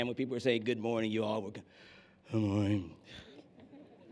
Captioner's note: said in a sleeping voice